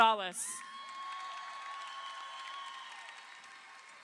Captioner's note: crowd cheering